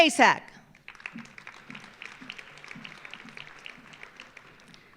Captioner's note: audience applauding